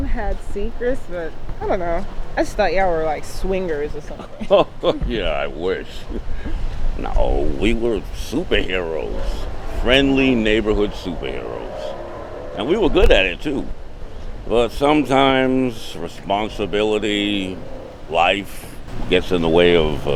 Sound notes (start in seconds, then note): 5.7 laughing